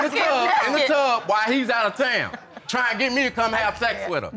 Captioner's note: chuckling